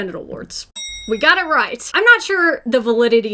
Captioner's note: bell dings